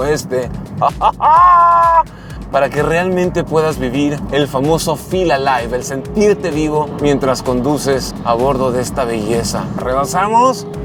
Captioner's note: excited shout